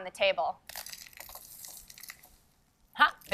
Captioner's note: debris crackles